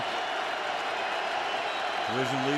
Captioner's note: cheering